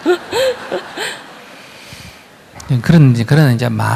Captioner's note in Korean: 청중 웃음